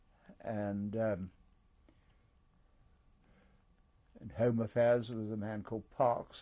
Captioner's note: pauses for 3 seconds